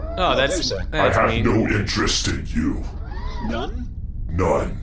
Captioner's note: disbelieving/surprised